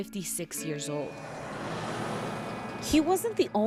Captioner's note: truck whooshing